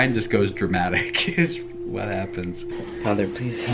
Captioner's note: laughs